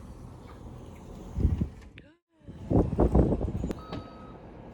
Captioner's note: cold wind